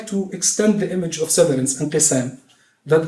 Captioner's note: non-english speech